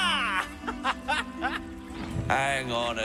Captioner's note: laughing